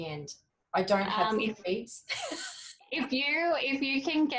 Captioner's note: laughs